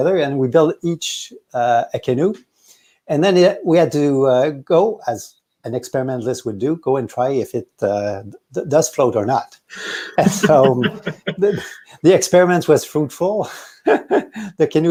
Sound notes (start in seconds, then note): 9.8 laughs